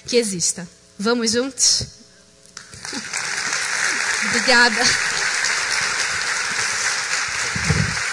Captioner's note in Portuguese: applause